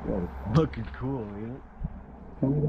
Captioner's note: male Voice